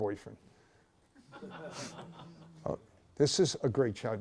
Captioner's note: laughter